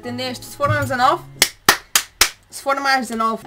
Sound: Palmas

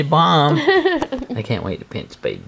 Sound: mom laughing

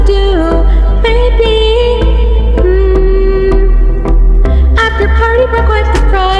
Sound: mmm

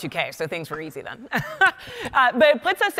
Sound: laughing

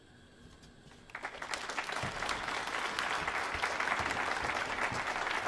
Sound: audience applauding

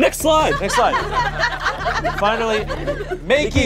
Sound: audience laughs

